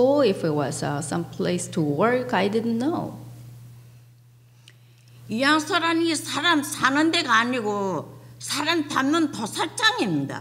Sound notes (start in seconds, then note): 5.8 speaking foreign language